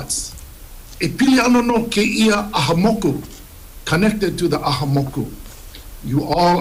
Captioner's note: speaks Hawaiian